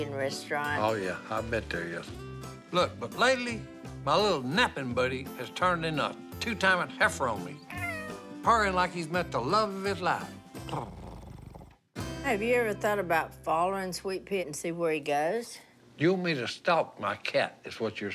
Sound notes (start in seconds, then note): 7.6 meow; 10.6 purrs